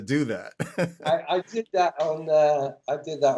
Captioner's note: laughter